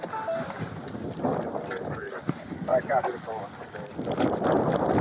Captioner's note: radio chatter